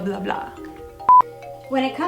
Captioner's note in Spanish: bip